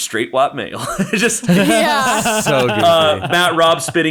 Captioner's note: all laughing